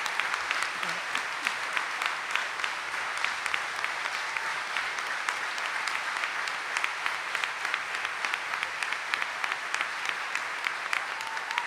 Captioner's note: audience cheering and applauding